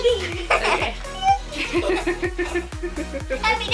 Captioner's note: laughing